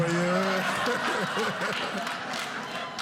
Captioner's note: audience laughing